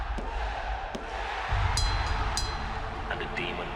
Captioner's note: crowd cheering; bell ringing